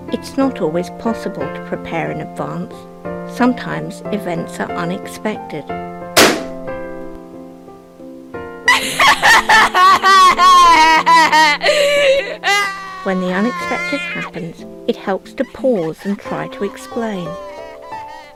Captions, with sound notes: It's not always possible to prepare in advance. Sometimes events are unexpected. [Balloon pops] [Crying] When the unexpected happens it helps to pause and try to explain.